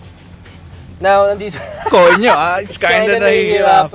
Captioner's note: laughing